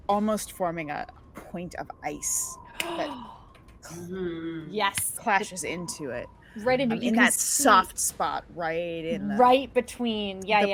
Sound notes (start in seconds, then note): 2.5 claps; 3.2 gasps